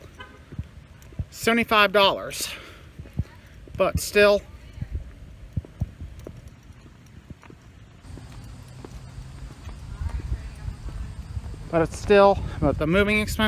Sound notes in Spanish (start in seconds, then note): 4.8 Charla indistinta